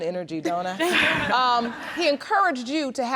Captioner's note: all laughing